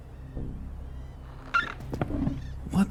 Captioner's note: chair squeaks